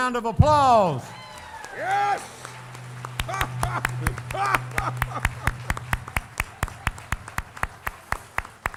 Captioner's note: applause,laughter